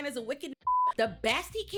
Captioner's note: beep